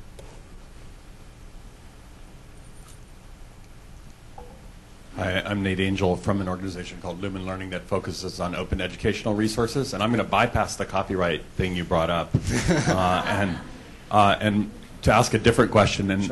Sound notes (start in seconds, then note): 12.4 laughter